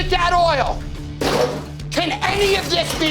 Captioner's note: fry basket clattering